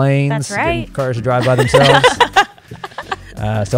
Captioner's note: laughter